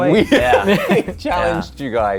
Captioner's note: laughing